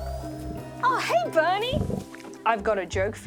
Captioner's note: growls